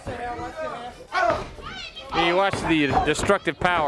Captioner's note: crowd chatter